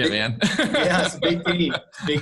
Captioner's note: laughs